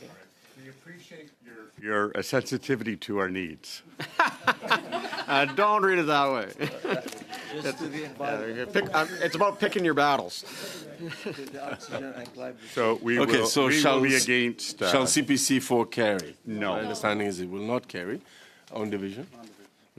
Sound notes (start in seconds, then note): 8.6 laughter